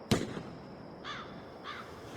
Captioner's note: crow cawing